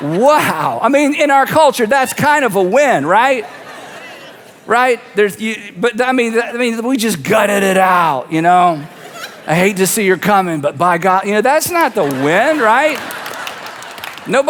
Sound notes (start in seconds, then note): 2.0 audience laughs; 8.6 audience laughs; 11.5 audience laughs and claps